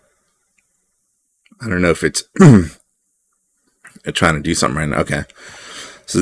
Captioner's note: clears throat